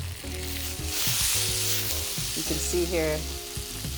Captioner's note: pan sizzling continues